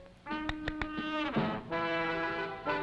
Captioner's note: clicking